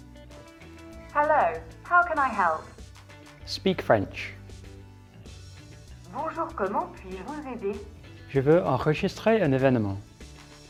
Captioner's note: replies in French